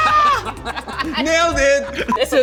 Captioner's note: yelling; laughing